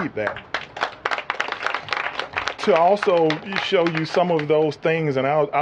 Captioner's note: applause